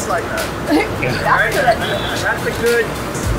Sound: laughs

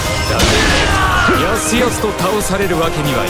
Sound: fatal scream

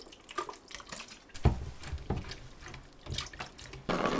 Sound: splash splash

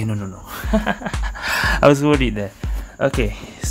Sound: laughs

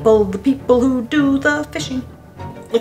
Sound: in a sing-song tone

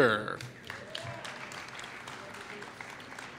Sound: applause

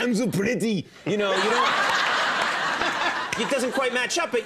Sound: audience laughing

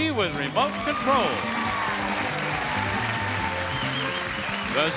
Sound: crowd cheering

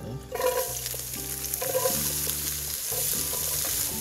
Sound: pot sizzles

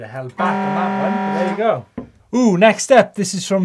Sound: horn blowing

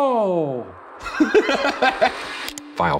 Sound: laughs

